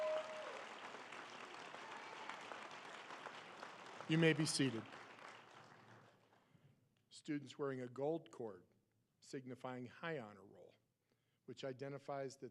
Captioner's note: applause